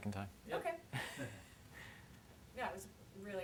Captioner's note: laughs